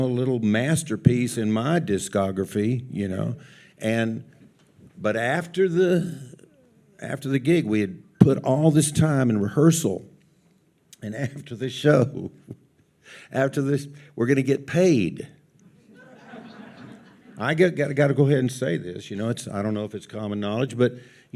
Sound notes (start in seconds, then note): 15.8 audience laughs